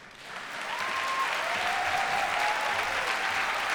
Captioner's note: applause